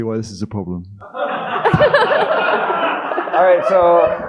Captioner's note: audience laughing